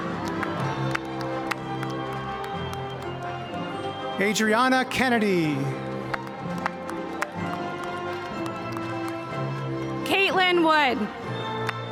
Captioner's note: cheers